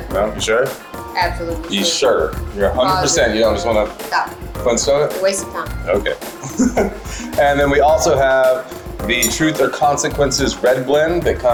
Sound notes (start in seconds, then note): 6.4 laughs